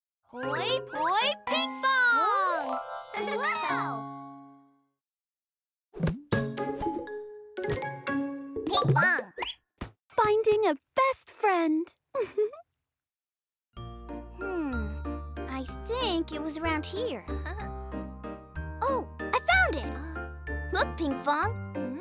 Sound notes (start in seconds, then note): 12.1 giggles